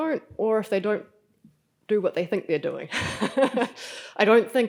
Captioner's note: laughs